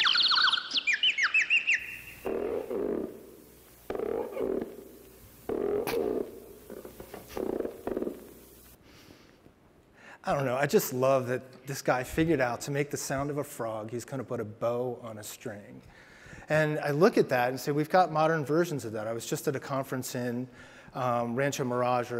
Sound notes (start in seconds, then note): 0.0 birds chirping; 2.7 frogs ribbiting